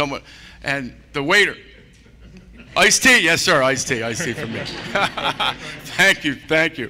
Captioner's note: laughter